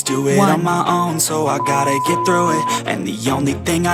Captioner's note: timer beep